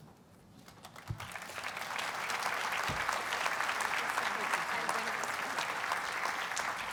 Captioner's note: audiences applauds